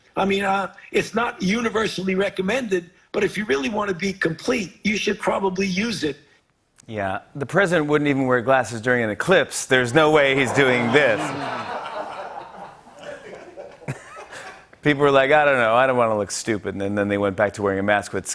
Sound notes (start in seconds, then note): 10.3 laughter